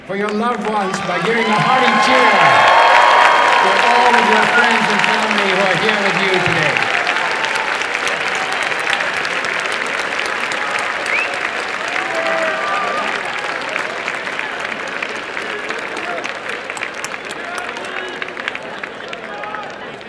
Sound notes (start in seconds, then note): 7.4 applause and cheering